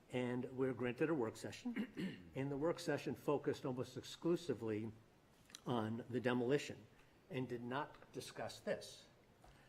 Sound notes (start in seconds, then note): 1.7 clears throat